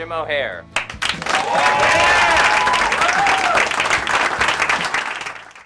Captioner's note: all cheer and applaud